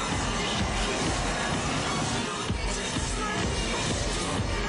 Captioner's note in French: Cris de la foule